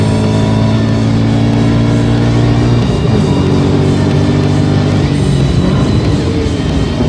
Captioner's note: sports car engine revving; thrilling rock music